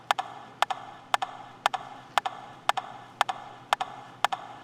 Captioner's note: rhythmic tapping